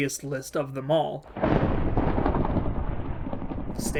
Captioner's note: thunder rumbling